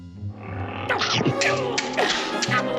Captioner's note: growling, chomping